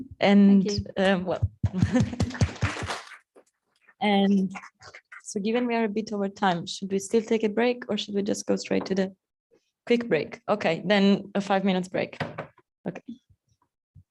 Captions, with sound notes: And Thank you. Well-- (applause) And so given we are a bit over time, should we still take a break or should we just go straight to the-- Quick break? Okay. Then a five minutes break. Okay.